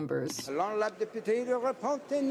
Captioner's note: speaking in french